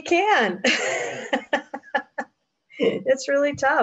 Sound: laughs

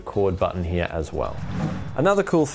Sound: swoosh

